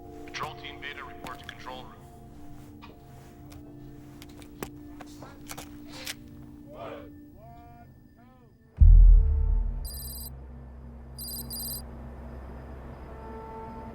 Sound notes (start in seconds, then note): 6.7 army chanting; 8.7 text clicking; 8.7 tense music